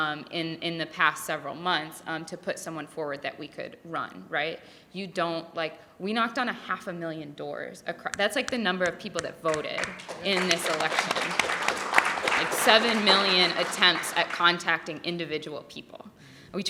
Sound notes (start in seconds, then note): 10.4 audience clapping